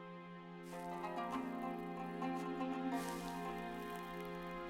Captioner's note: sizzling